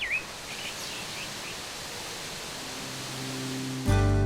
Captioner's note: water rippling; water whooshing; soft music